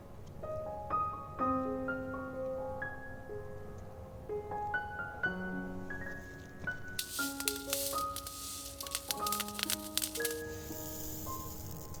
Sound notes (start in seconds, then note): 6.9 crackle of beads